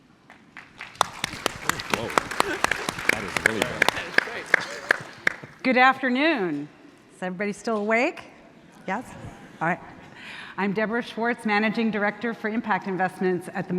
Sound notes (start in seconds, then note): 0.2 audience clapping